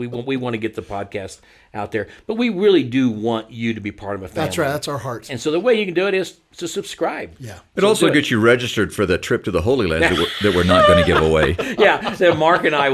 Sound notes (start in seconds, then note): 10.0 everyone laughs